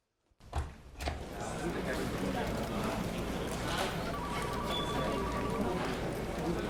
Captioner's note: phone ringing; group chattering